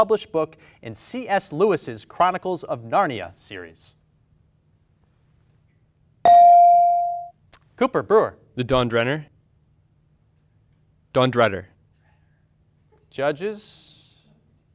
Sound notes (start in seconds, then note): 6.2 bell dings